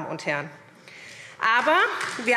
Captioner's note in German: Beifall SPD